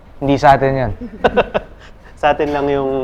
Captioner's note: laughs